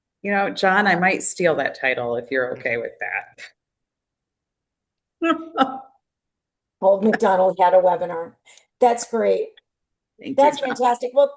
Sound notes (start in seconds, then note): 5.3 laughs